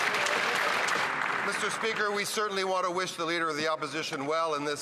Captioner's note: some Applause